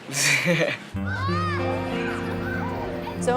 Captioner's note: laughing